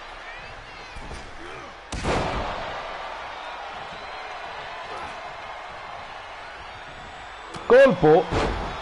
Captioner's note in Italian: Applauso